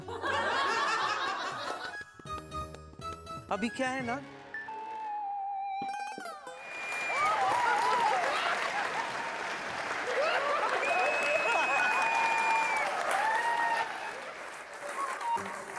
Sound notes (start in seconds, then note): 0.2 laughing; 7.4 applause and cheer; 9.8 laughing